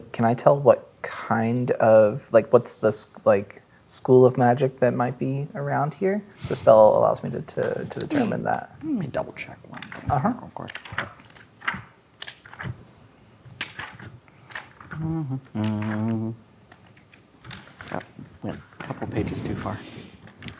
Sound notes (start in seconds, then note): 12.2 pages rustling; 14.9 humming